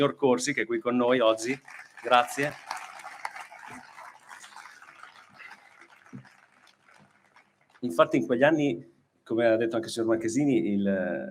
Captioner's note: applause